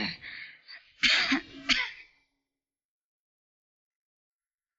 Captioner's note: Ellen coughs